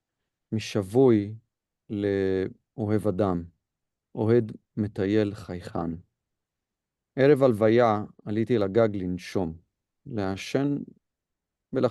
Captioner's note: Hebrew